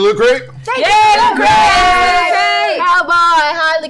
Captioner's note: cheering